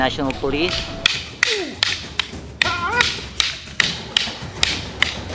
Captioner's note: sticks clunking